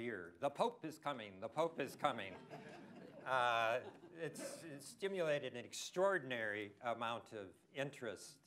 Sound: laughter

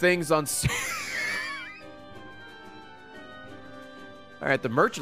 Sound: laughs

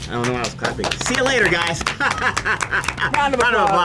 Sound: clapping; chuckling

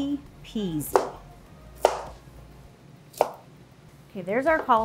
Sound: knife thudding

